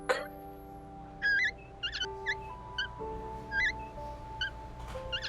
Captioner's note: wheels squeaks